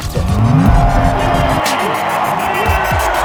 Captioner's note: crowd cheering